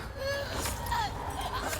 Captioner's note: chokes; screams